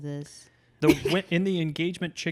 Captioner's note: laughs